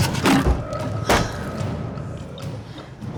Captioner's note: banging continues